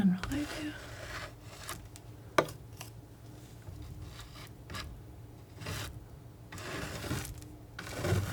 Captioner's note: scratching